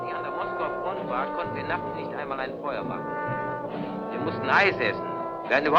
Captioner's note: speaking in a foreign language